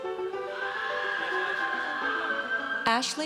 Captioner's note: audience cheers